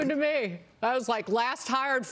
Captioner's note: laughter